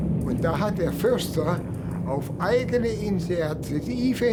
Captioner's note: speaking German